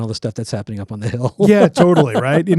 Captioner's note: laughs